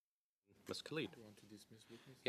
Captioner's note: speaking French